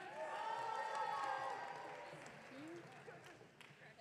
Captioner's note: audience cheering